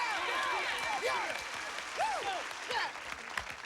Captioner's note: yelling and cheering